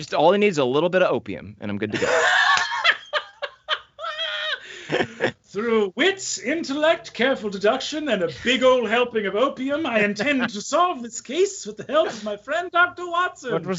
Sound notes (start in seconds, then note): 1.9 all laughing